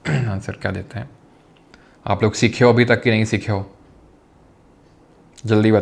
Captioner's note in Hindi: गला साफ़ करने की आवाज़